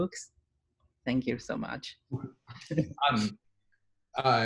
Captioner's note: chuckles